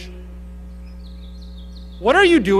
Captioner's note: birds chirping